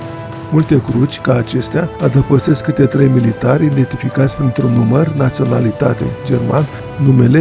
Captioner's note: German